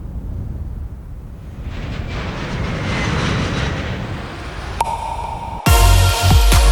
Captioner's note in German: Flugzeug fliegt vorbei